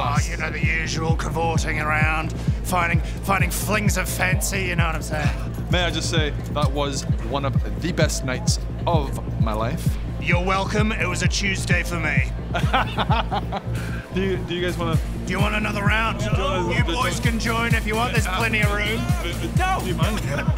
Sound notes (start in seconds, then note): 12.5 painful laugh